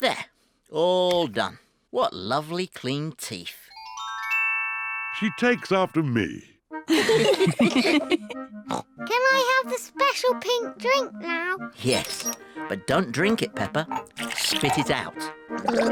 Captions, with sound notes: There, all done. What lovely, clean teeth. -She takes after me. -(ALL LAUGH) (SNORTS) Can I have the special pink drink now? Yes, but don't drink it, Peppa. Spit it out.